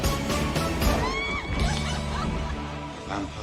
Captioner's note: creepy laughter